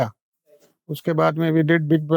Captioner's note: speaks in Hindi